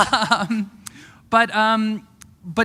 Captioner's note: chuckle